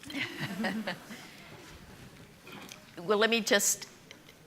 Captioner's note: all chuckling